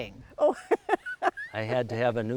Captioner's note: laughing